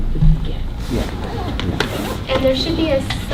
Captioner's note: people chattering